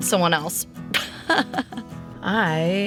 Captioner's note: laughs